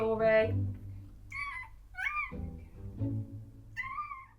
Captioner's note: newborn puppy squeaks